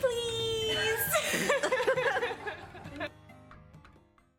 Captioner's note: laughter and cheers offscreen